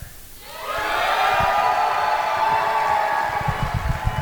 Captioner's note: audience cheer